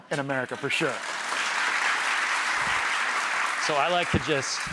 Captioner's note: audience claps